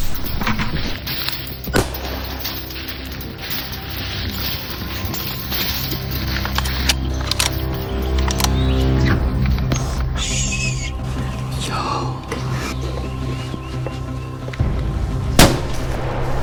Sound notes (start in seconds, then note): 1.7 rifle blasts echoes; 3.8 wild boars slamming wire on hog trap; 8.1 Crisp metallic click of the 6.5 Creedmoor bolt; 11.6 pure excitement heart pummping